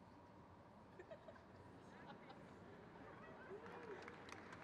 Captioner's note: crowd claps